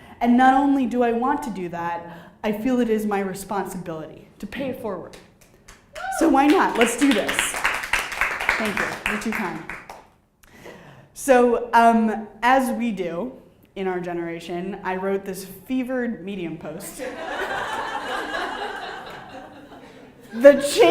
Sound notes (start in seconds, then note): 8.1 clapping; 17.0 audience laughing